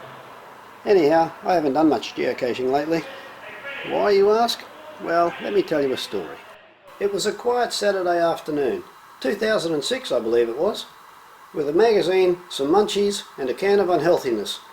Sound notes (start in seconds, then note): none